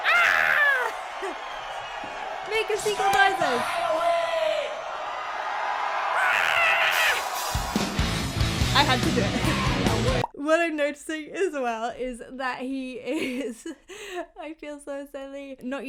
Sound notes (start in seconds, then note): 1.0 laughing; 5.0 audience cheering; 6.2 screeching; 8.5 low rhythmic music returns; 9.9 laughing; 13.8 laughing